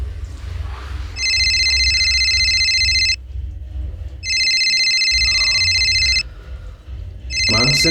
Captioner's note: phone ringing again